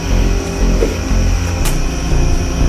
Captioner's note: rope whips upward